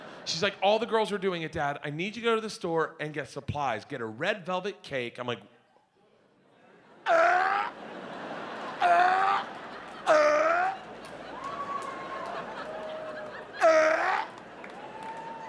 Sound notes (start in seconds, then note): 0.0 audience laughs; 7.0 making chocking sounds